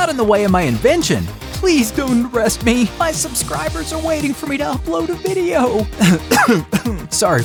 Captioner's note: almost crying; clears throat